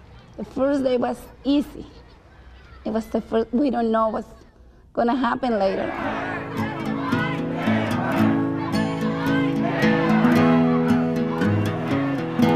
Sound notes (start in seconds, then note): 5.6 chants